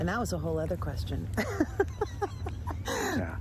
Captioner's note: laughs